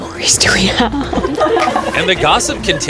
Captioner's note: laughing